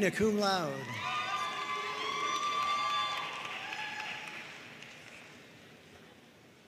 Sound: audience cheering and applauding

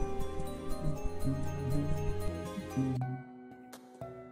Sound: humming along

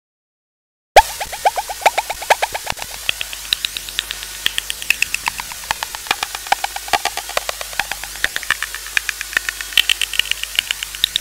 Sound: water dripping

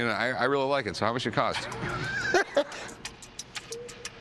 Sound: laughs; suspenseful music playing

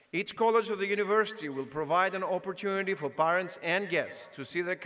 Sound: none

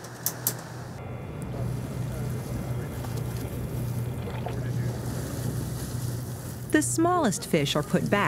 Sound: boat and water sounds

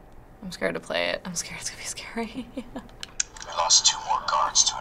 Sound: nervous laugh

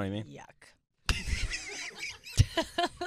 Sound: laughing

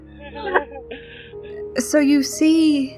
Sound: laughter

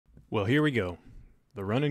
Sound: voiceover

